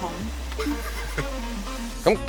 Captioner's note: haha